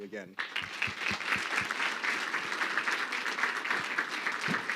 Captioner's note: crowd clapping